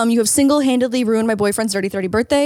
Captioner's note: none